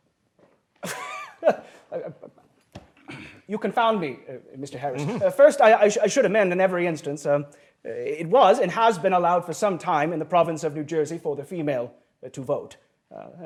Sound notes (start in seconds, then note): 0.8 chuckles